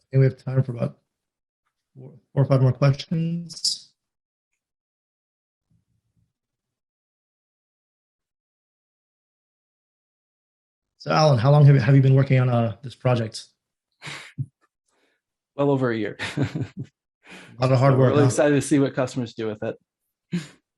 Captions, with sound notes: And we have time for about four or five more questions. So Alan, how long have you been working on this project? Well over a year. [LAUGHS] A lot of hard work, huh? I'm really excited to see what customers do with it.